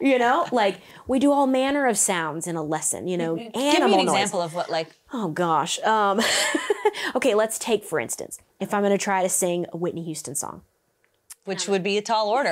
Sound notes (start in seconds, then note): 6.3 laughs